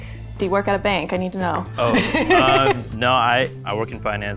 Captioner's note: laughs